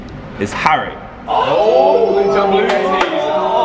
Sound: cheering

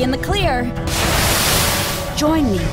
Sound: sand pouring down

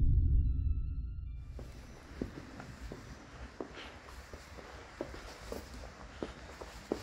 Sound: we hear heavy footsteps

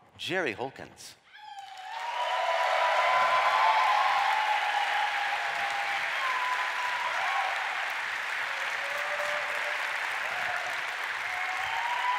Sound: applause

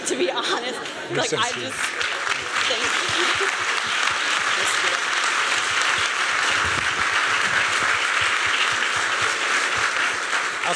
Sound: applause

